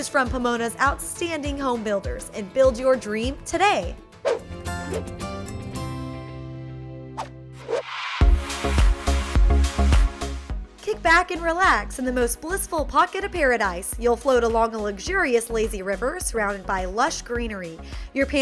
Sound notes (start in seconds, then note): 5.4 whoosh